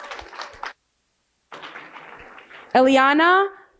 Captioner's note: applause